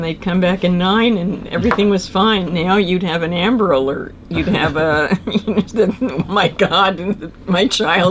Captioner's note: laughs